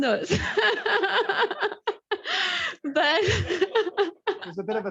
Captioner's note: laughs